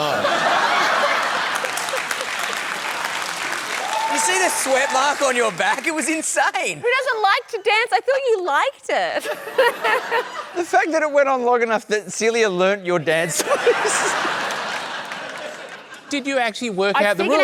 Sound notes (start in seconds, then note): 0.0 laughter, applause; 9.3 laughs; 13.3 laughter